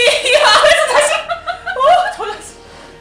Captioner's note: laughing